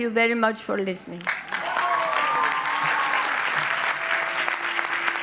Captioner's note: audience applauds